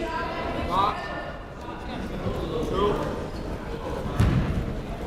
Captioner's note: crowd murmuring